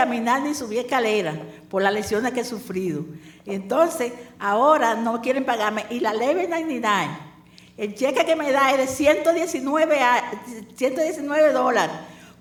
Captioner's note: speaking spanish